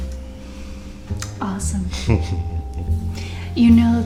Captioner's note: man laughs